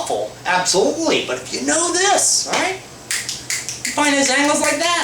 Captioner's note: fingers snapping